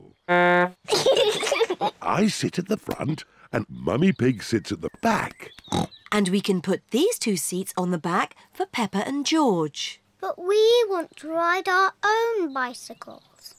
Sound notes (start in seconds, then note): 0.2 toots horn; 0.8 both giggle; 5.6 snorts